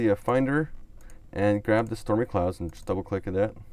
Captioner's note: clicks on mouse